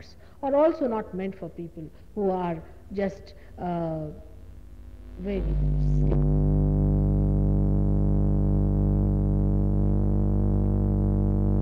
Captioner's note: noise in mp3